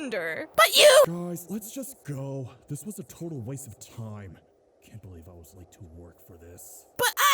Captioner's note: says under his breath